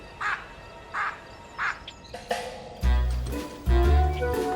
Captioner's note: baboon chattering; bright playful music